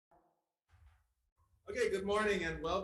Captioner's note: silence; gavel bangs